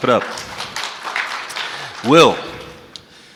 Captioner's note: audience clapping